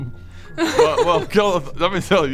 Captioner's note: laughs